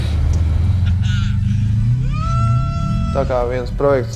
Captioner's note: having an orgasm again